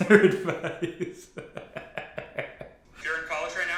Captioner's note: laughs